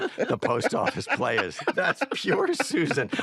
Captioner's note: laughter